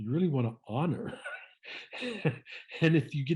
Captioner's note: laughing